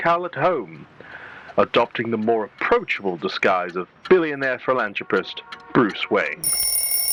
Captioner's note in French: Le tic-tac commence, de plus en plus fort